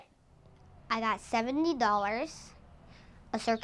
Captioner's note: children chattering